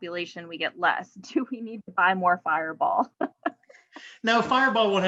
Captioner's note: chuckles